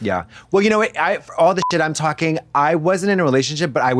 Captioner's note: beep